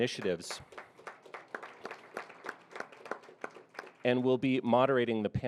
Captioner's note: audience applauding